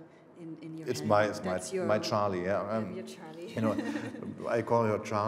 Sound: laughing

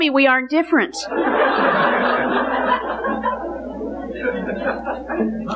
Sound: congregation laughing

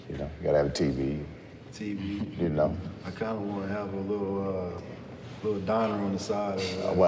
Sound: chuckling

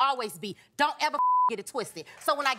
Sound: beep

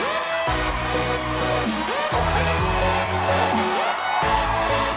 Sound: cheering, whistling

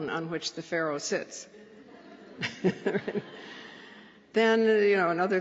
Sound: laughter

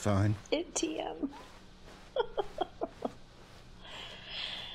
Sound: chuckle

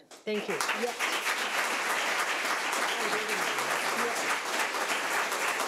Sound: audience applauding

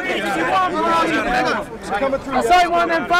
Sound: yelling

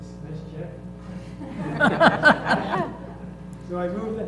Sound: laugh

